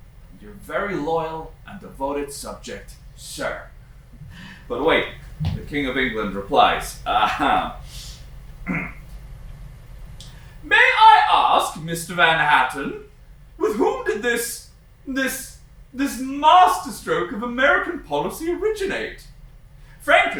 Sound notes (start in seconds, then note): 8.6 clears throat; 10.8 posh accent